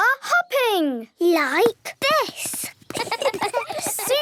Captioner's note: laughs